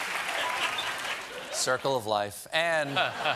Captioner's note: applause